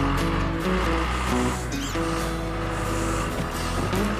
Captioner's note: engine Running